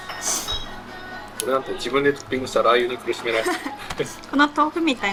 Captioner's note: laughs